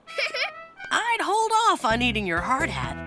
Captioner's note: giggles